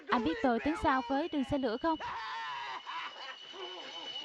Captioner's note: train passing